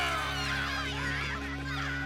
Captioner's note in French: créatures qui crient